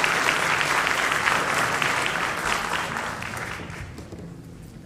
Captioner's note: applause